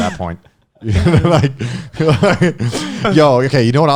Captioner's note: laughing